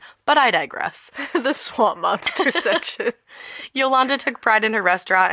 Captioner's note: laughter